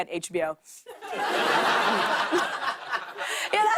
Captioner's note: laughter